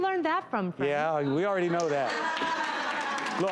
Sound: laughter

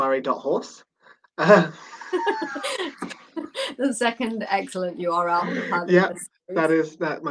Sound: laughter

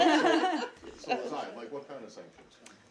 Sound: laughter

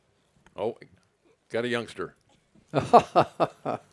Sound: laughter

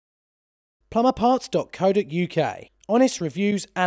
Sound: voiceover

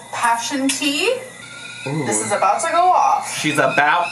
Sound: kettle whistling

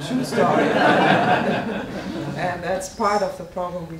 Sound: audience laughing

